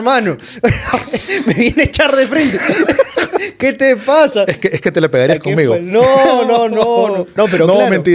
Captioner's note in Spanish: risas